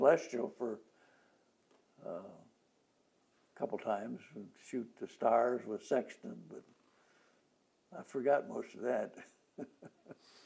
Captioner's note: laughs